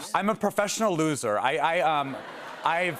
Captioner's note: laughter